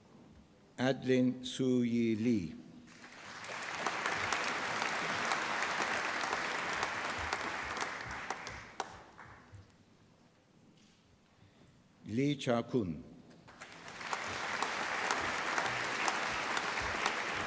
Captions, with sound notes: Adeline Su Yi Lee. (APPLAUSE) Lee Chao Qun. (APPLAUSE)